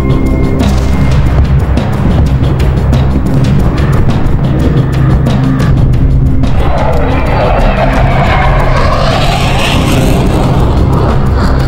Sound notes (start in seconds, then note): 0.3 explosions in the distance; 6.3 plane flies